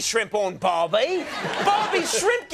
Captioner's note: audience laughs